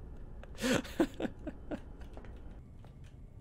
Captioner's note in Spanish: risas